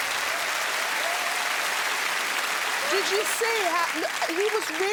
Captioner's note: cheers and applause